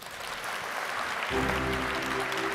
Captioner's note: applause